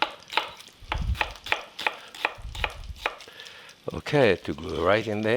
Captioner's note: chopping on cutting board